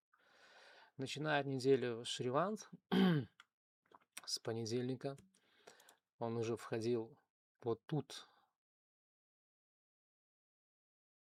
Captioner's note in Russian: откашливается